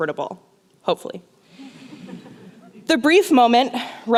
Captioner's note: laughter